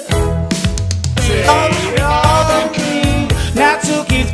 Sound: glitchy

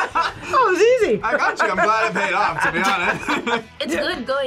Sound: both laugh; laughs

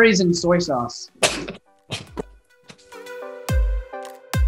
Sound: laughing; upbeat music

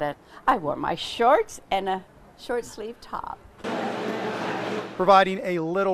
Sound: fan blowing

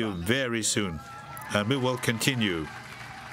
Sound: applause

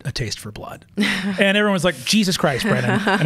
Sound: laughs

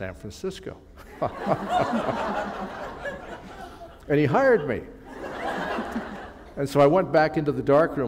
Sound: laughter

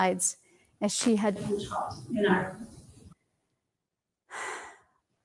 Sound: murmurs

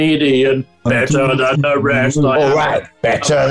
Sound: deep voice; gruffly

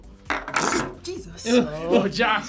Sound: magnets buzzing

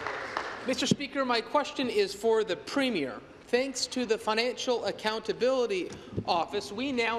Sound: applause

